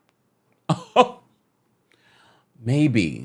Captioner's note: laughs